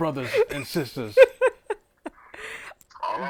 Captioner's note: laughing